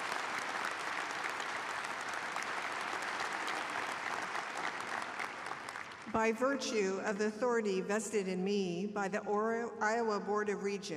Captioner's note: applause